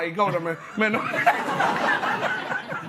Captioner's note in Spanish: Risas